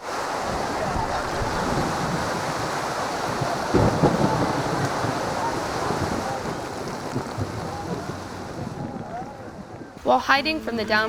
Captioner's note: thunder rumbling